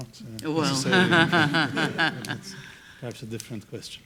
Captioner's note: laughs